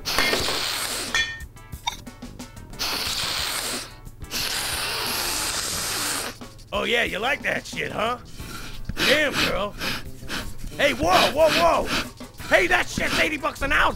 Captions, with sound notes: ( Snort ) ( Scrape ) ( Snort ) ( Snort ) O yeah, you like that shit huh? Damn girl. ( Snorting ) Hey, whoa whoa whoa. Hey, that shit's eighty bucks an ounce